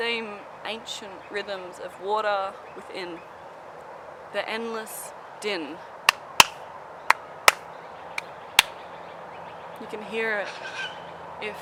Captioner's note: thump thump thump